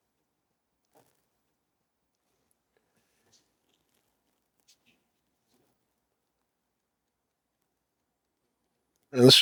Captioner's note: silence